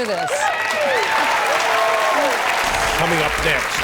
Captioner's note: audience cheering and applauding